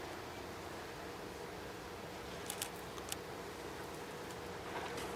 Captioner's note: camera shutter clicks